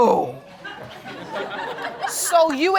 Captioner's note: audience chuckling